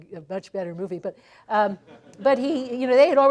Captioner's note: laughter